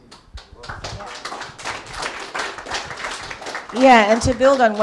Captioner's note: Applaus